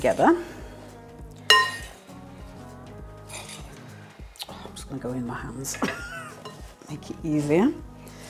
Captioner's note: laugh